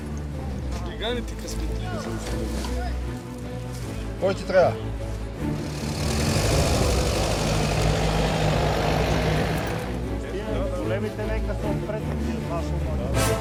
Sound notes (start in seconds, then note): 3.0 heroic music; 3.0 people chattering